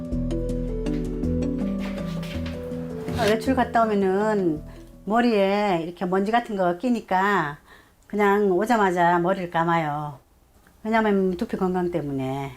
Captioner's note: voiceover